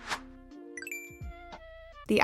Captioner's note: ding